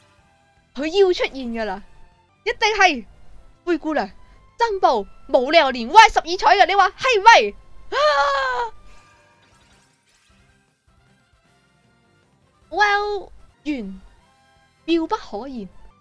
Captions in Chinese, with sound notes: 她要出现了！一定是！ 灰姑娘真步！ 没理由连歪１２彩的！你说对不对（吸气） ＷＥＬＬ 缘 妙不可言